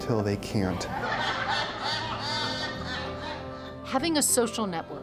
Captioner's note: nuns laughing